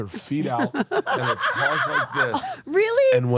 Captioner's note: laugh